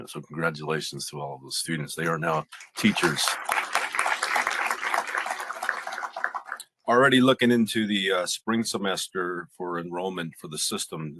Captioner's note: applause